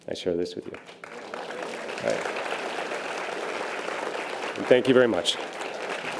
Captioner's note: audience applause